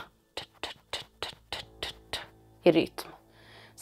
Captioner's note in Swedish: Knackande ljud flera gånger